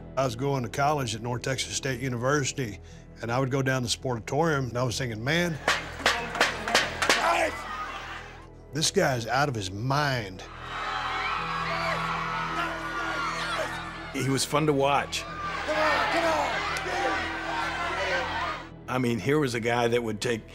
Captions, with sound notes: I was going to college in North Texas State University. And I would go down to the Sportatorium. And I was thinking, man... - [shouts] - This guy is out of his mind. [crowd cheering] - [indistinct shouting] - He was fun to watch. - Come on, get up! Get in! Get in! - I mean, here was a guy that would take